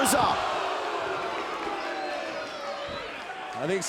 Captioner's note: crowd exclaiming